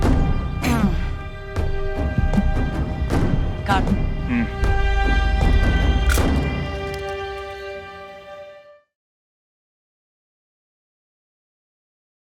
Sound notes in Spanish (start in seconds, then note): 6.0 Clic de la cámara